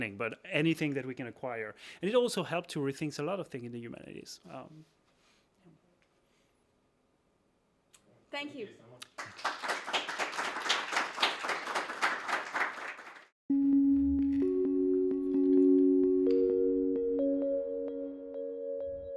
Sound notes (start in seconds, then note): 9.0 crowd clapping; 13.6 upbeat music